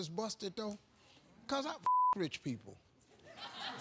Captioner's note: beep; audience laughs